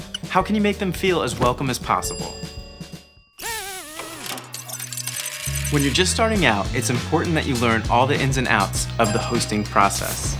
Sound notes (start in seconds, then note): 1.4 bell dinging; 3.4 robotic whirring; 5.4 upbeat music